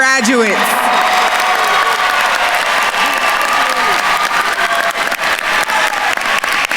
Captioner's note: attendees cheering and applauding